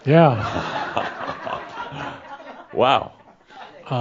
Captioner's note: laughter